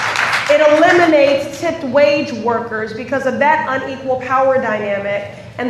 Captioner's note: applause